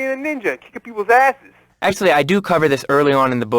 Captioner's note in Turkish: peltek bir sesle